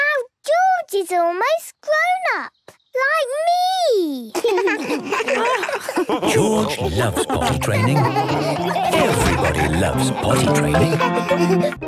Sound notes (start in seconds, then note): 4.7 laughs